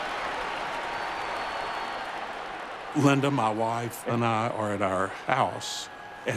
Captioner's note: cheering